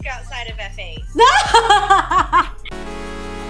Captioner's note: laughs